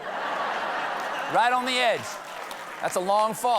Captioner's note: laughter